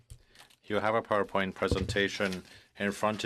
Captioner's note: speaking French